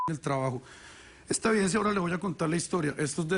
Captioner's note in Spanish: Bip